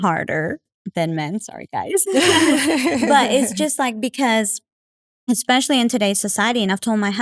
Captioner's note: laugh